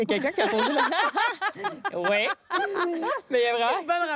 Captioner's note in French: rires